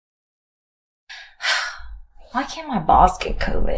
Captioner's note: long silence; sighs